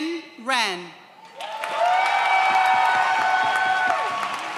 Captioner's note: audience cheers